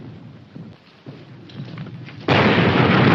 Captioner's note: artillery firing